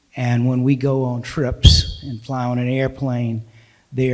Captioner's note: none